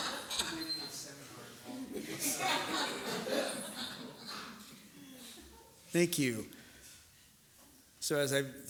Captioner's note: laughter